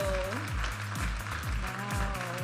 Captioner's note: audience applauding and cheering